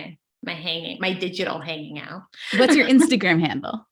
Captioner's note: laughs